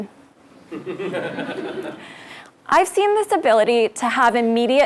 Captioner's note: laugh